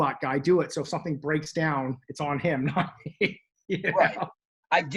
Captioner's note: laughs